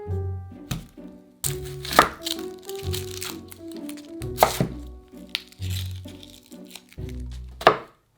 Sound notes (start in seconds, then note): 1.4 onion paper rustling